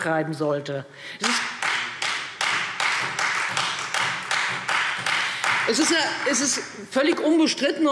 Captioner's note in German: Beifall Freie Demokraten